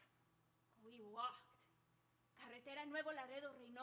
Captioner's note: speaking Spanish